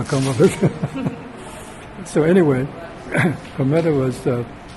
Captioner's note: laughs